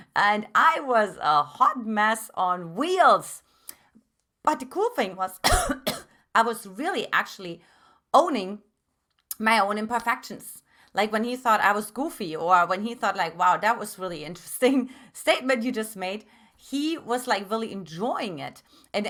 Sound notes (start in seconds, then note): 5.4 coughs